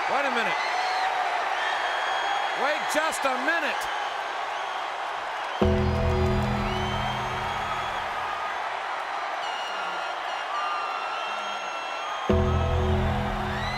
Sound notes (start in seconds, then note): 5.6 ominous music; 6.7 audience cheers; 12.3 ominous music